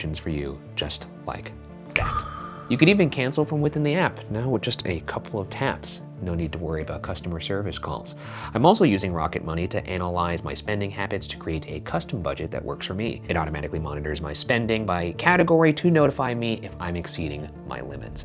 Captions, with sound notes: for you, just like that. (finger snapping) (mysterious music) You could even cancel from within the app. Now, with just a couple of taps, no need to worry about customer service calls. I'm also using Rocket Money to analyze my spending habits, to create a custom budget that works for me. It automatically monitors my spending by category to notify me if I'm exceeding my limits.